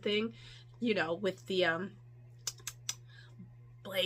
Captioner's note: clicks tongue